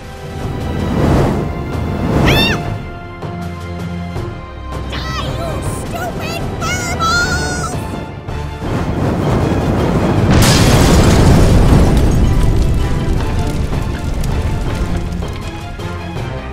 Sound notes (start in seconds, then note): 0.0 fire blast SFX; 2.2 high pitched scream; 8.6 fire blast, explosion, and glass shattering SFX